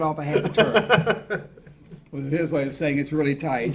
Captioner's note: laughing